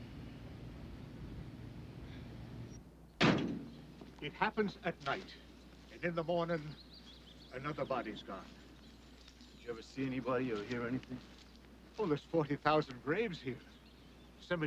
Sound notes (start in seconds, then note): 0.1 both sigh; 3.2 door bangs